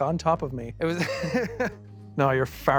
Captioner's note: laughs